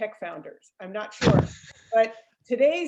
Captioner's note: laughs